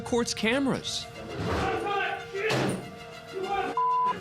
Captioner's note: shouting and thudding